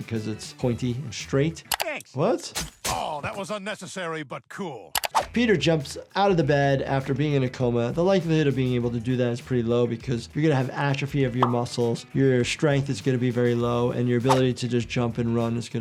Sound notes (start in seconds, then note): 2.6 blade slicing